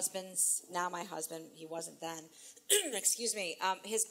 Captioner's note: clears throat